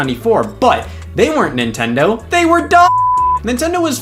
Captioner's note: beep